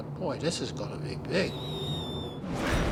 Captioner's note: bomb whistling; explosion